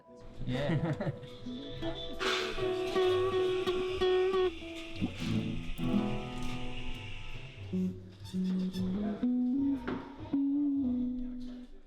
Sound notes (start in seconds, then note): 0.4 laughs; 6.8 soft guitar strumming